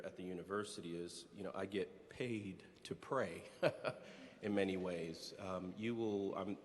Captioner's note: laughs